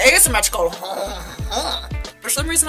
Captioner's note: stereotypical Frenchman laugh